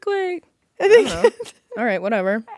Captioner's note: Courtney laughing